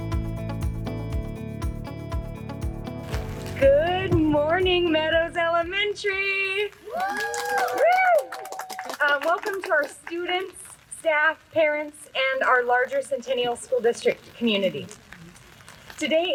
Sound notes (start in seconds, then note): 6.8 cheering